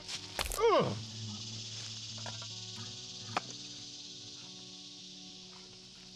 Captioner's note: frog thuds; Dave grunts